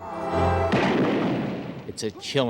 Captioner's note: Bruce screams; gunfire cracks